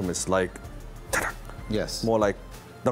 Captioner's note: mimicking tapping